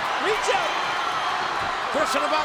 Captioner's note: crowd cheering